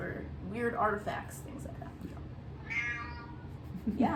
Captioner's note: cat meowing again